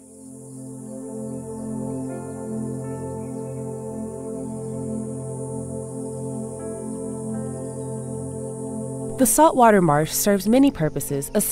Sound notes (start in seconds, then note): 0.2 gentle music; 3.4 crickets chirping